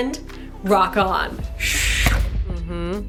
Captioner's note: whooshing